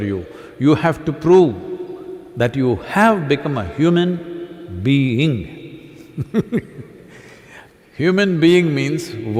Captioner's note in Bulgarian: смях